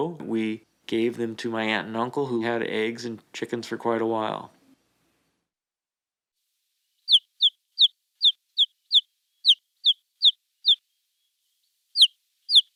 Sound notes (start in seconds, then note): 7.0 chick peeping